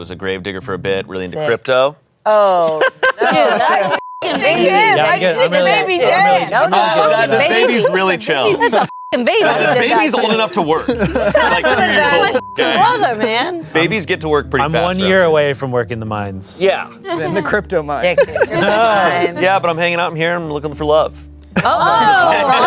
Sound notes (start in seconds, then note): 2.7 everyone laughs; 3.5 beep; 8.5 beep; 11.8 beep